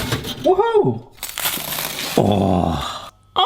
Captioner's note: crunching